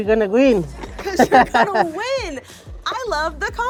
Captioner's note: laughs